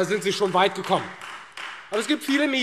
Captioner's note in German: Beifall Freie Demokraten